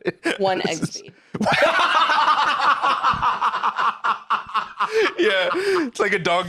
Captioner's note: both laughing